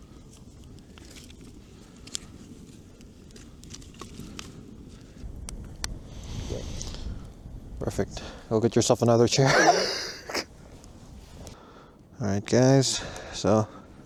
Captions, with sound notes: "Perfect, go get yourself another chair" *laughs* "All right guys, so"